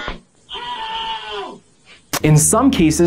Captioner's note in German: Schrei des Lernenden